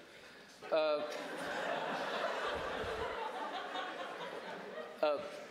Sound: audience laughing

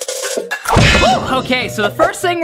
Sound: banging

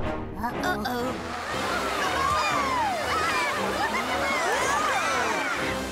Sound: shouting

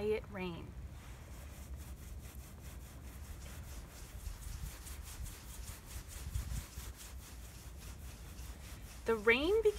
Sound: swishing sounds

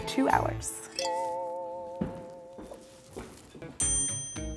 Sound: vibrating bell; energetic jazz music

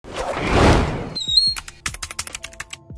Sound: whoosh; typing

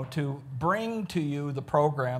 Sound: none

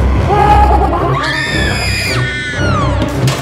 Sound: laughs; screams

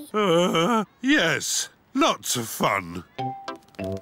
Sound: groans

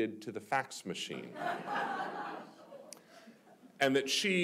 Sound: audience laughing

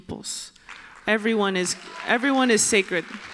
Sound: applause

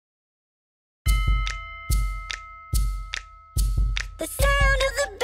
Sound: bell sound

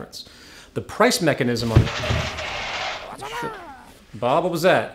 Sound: crash

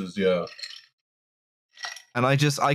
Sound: ice rattling in a tasty drink

